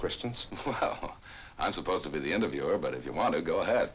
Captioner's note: laughing